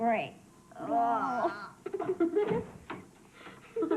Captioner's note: gagging noises, giggling